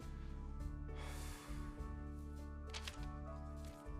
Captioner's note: exhales